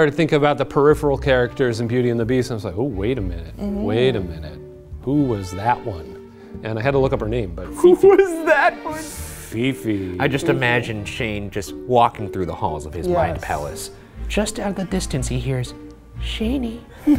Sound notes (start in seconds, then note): 7.9 laughs